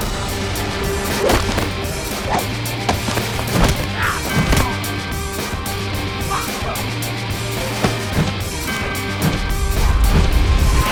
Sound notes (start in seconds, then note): 0.1 blows thudding; 0.1 energetic suspenseful music; 3.9 fighters grunting; 8.7 air whooshing